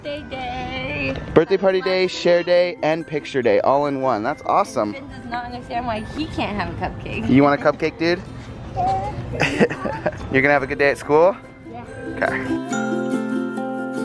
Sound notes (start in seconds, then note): 9.2 laughing; 13.8 tranquil music